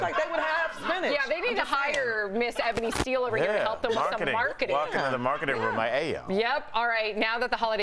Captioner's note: laughter